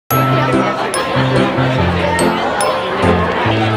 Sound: indistinct chatter

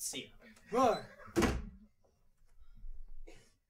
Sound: door slams shut

